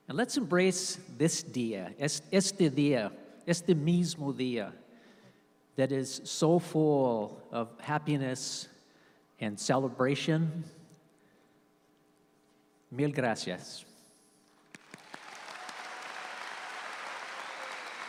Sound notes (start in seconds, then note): 3.0 speaks in Spanish; 14.5 claps; 14.6 audience applauds